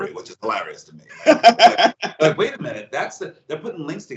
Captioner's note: laugh